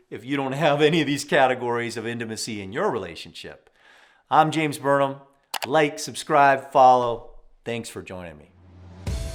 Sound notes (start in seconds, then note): 5.5 text clicking